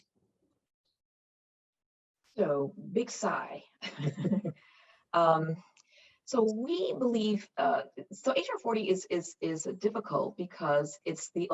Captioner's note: laughs